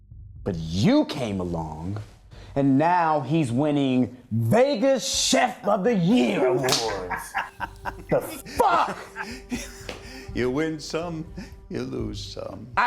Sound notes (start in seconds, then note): 6.1 laughs; 8.7 chuckles